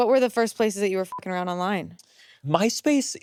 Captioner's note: beeps